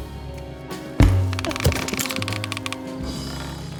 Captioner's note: tire swing thuds; rope creaking